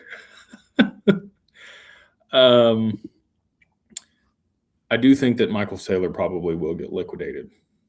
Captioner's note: laughter